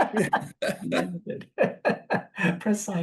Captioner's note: panel laughs